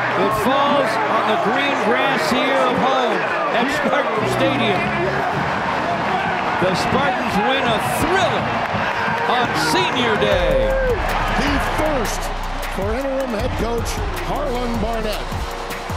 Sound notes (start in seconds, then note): 5.0 crowd and team cheering